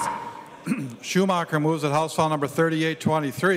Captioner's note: chorus of ayes